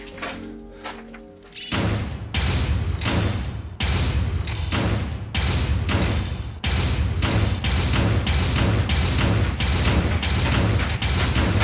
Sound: repeated loud metallic banging intensifies

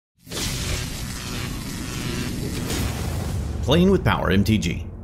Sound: electricity buzzing

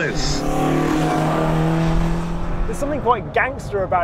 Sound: engine revving

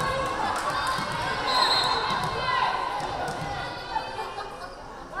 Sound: whistle blaring

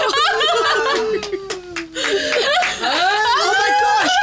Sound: group cheering; laughing

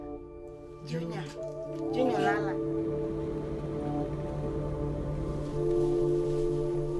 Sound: melancholy music; chattering

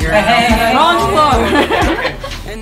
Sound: giggles

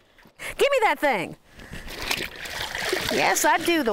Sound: water sloshing

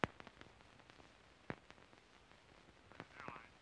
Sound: on phone

